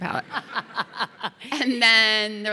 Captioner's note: audience laughing